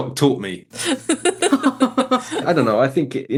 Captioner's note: laughs